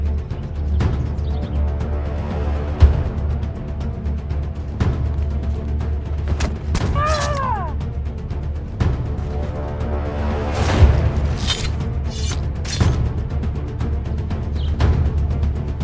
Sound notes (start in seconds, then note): 0.2 dramatic music; 6.8 screams; 8.2 dramatic music